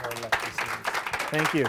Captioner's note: audience applauding